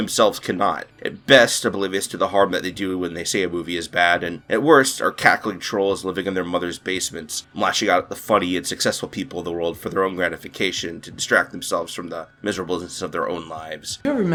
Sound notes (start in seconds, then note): none